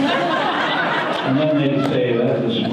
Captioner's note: audience laughter